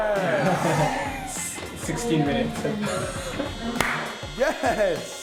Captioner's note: laughing